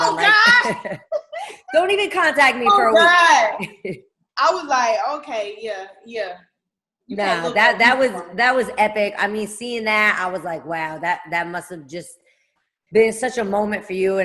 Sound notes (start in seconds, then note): 0.0 laughing; 2.9 laughing